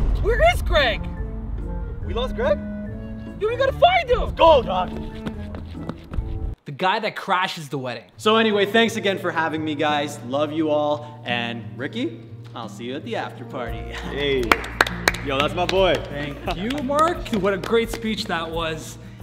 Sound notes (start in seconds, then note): 13.9 claps